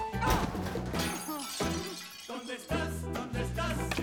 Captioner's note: glass breaks